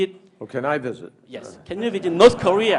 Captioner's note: laughter